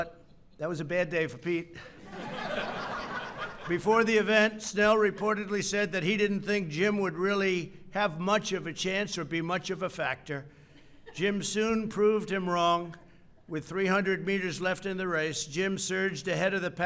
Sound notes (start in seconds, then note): 1.8 laughter